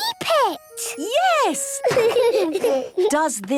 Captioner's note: laughter